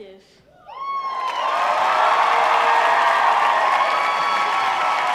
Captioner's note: audience applauding